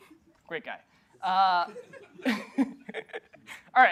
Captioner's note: chuckles